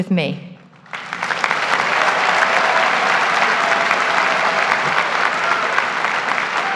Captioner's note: graduates applaud; graduates cheer